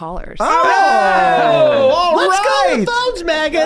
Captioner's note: everyone cheers